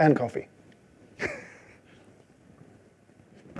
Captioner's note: chuckles